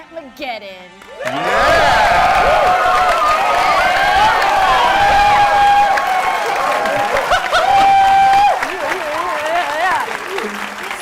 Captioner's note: cheering